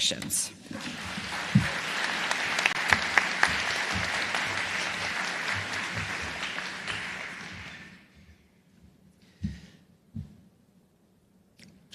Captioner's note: applause